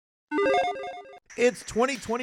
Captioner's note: electronic tones chiming